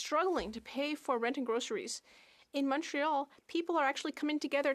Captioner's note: speaking French